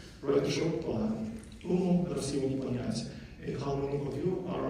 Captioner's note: non-english speech